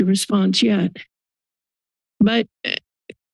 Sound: silence

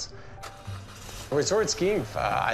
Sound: car engine starts

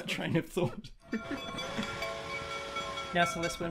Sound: steam train bell and whistle

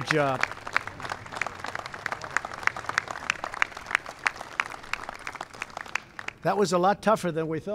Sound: applause

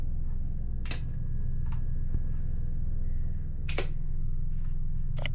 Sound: clippers snipping

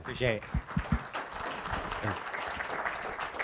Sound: applause

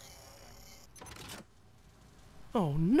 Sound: electronic screen hums; electronic screen beeps

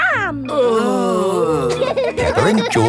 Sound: groaning; laughing

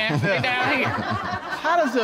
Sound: chuckling

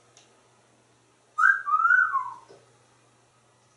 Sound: sexy Whistle

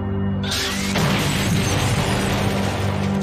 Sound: explosion

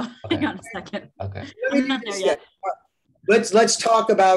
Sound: laughter

